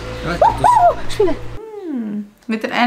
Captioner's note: panic squeak